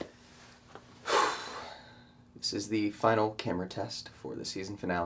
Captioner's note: Suspirando